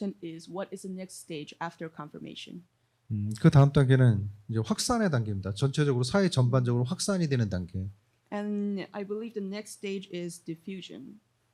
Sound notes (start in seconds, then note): 3.6 speaking korean